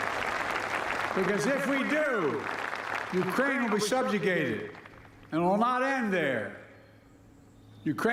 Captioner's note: applause